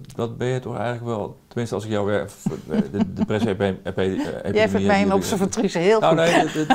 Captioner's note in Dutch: Lacht